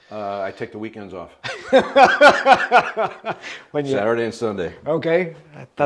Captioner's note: laughs